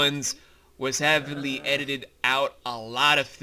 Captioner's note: Tsuna-Vi groans angrily; sound of children laughing